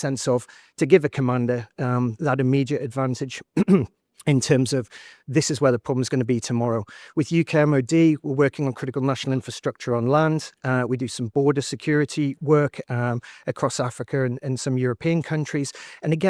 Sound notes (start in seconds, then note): 3.5 clears throat